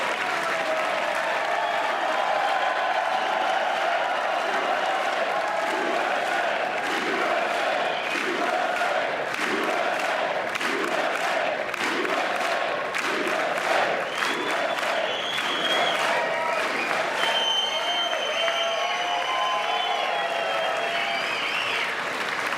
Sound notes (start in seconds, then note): 5.8 applause